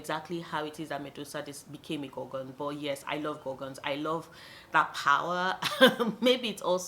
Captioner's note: chuckles